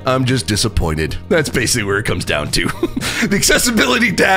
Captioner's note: laughs